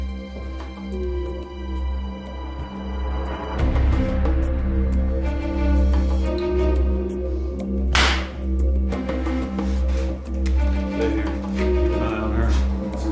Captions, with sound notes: (glass shatters) - Stay here. Keep an eye on her.